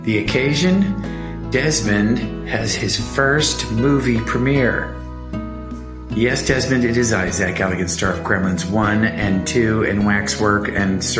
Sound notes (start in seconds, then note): none